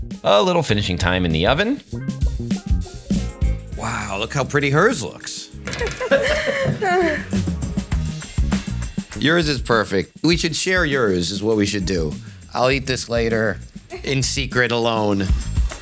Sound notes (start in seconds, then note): 2.1 upbeat rousing music; 5.6 laughing; 7.7 upbeat rousing music